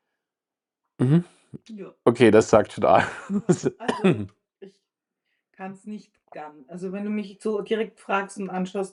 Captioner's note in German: gelächter